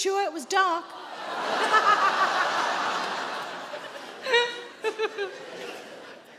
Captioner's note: Sarah laughs; audience laughs